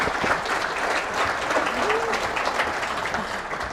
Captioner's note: clapping